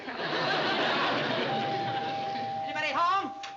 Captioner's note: doorbell rings